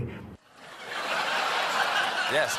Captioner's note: laughter